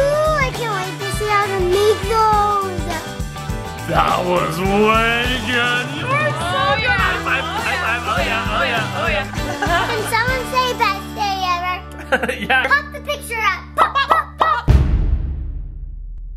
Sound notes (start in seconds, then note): 11.9 loud laughter